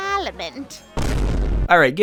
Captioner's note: cinematic Vine boom